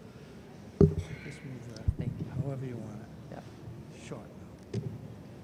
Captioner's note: speaking softly to each other while setting up microphone